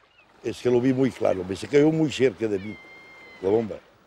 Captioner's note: speaking Spanish